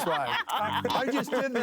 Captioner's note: laughing